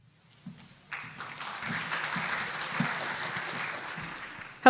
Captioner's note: applause